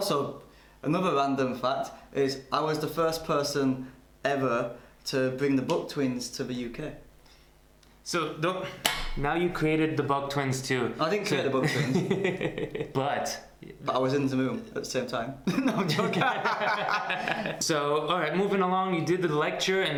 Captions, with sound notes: - Also, another London fact, is I was the first person ever to bring the Bob twins to the UK. - So, (slams hand on table) Now you've created the Bob Twins too. - I didn't create the Bob Twins - (laughs) But - I was in the room at the same time. (laughs) No, I'm joking. (both laugh) - So, alright, moving along you did the lecture